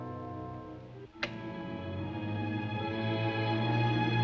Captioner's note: none